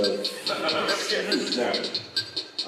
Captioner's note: laughter